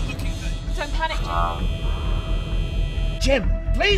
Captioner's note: alarm buzzing